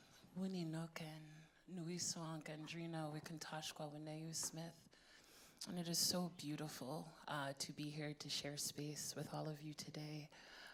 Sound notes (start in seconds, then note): 0.8 speaking in foreign language